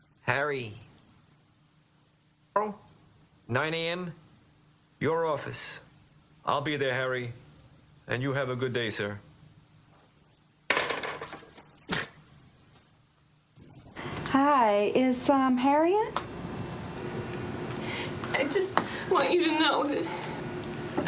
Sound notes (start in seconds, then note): none